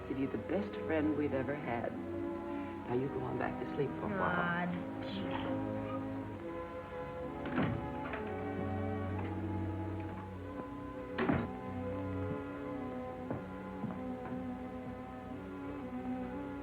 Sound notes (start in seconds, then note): 7.8 door opens; 11.0 door closes; 13.9 gentle music